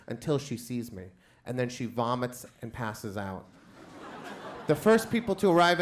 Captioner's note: crowd laughs